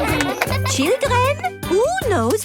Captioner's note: claps